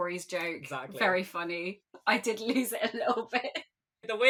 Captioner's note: laughing